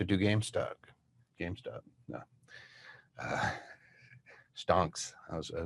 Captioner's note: laughs